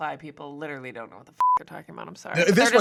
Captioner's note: beep